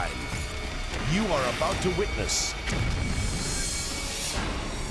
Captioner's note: explosions blasting